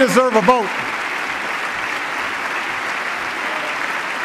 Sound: applause

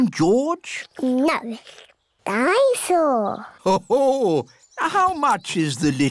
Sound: daddy pig laughs

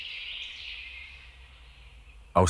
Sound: birds chirping

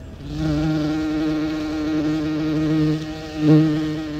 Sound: bee buzzing

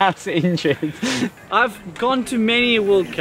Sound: laughs

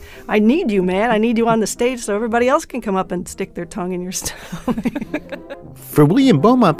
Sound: laughs

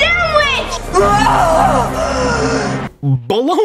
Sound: disgusted druid lady goblin sounds

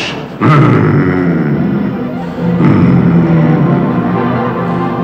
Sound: grunts

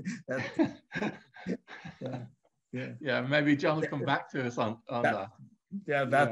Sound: laughs

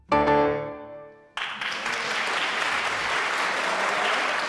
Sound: applause and cheering

